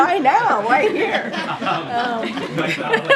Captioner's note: laughter